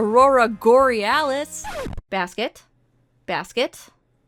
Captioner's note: record scratch